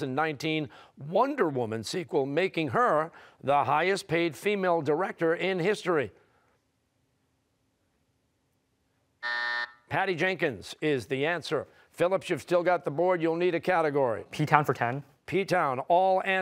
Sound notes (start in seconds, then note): 9.2 buzzer